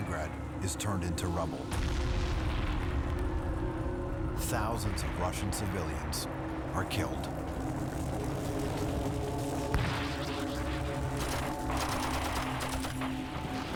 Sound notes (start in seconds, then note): 9.6 explosions and gun fire